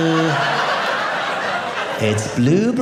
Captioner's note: audience laughing